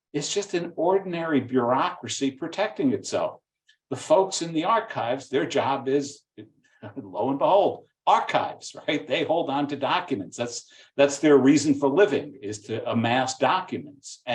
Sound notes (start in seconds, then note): 6.8 chuckling